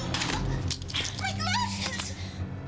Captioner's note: clattering